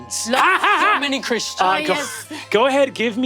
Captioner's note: laughs frenziedly